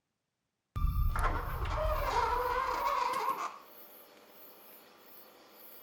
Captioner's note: fridge door squeaks